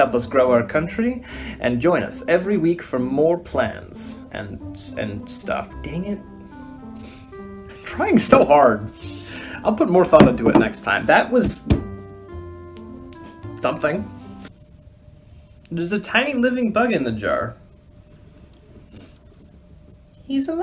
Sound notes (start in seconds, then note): 6.8 laugh; 10.2 hits table twice